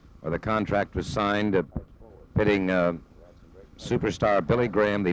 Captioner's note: people chattering distantly